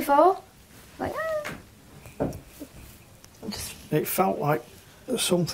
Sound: makes whimpering noise

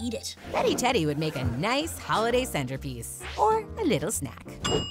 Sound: none

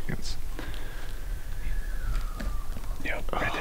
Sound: elk growl

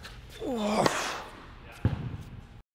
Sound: grunts

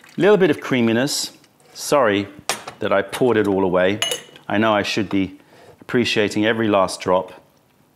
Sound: pouring tea

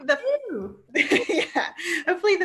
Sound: laughs

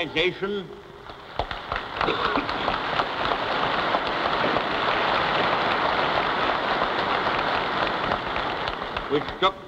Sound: applause

